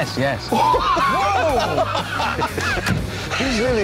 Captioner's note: all laugh